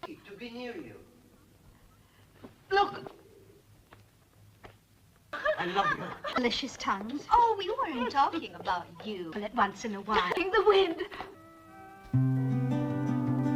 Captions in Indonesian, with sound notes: to be you. I [tertawa] love you.